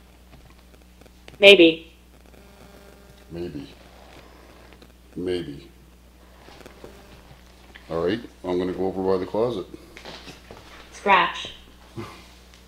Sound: Scratch

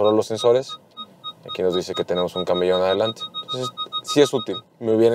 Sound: screen beeping

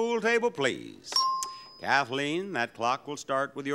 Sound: bell dinging

